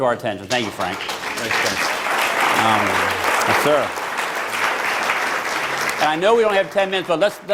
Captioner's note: applause